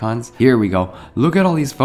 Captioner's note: gasps